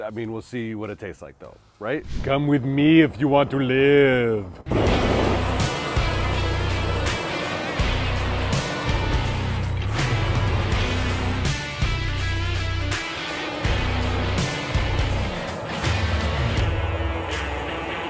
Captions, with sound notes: I mean, we'll see what it tastes like though, right? Come with me if you want to live. (upbeat rock music) (fire whooshing)